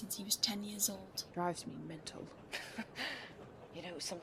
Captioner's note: Remus laughs